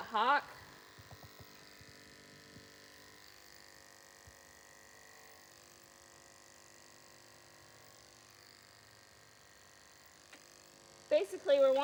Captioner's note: buzzing noises